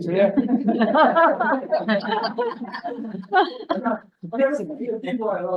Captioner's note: group laughs